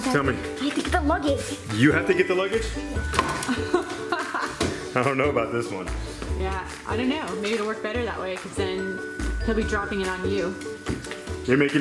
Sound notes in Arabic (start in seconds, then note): 3.4 يضحك